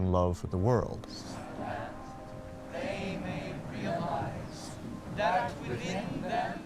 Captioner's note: chanting